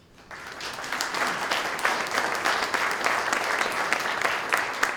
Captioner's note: applause